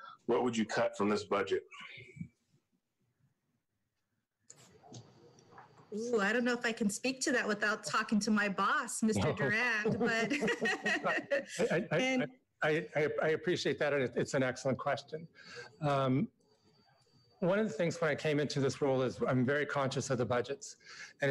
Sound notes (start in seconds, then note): 9.2 laughs